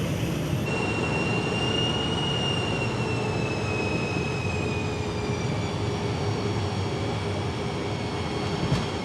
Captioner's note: airplane turbine